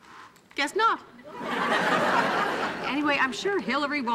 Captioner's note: audience laughing